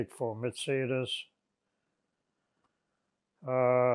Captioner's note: pauses 6 seconds